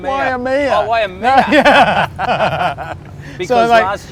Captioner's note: laughs